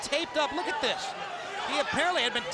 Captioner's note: crowd cheering